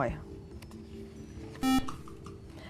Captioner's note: buzzer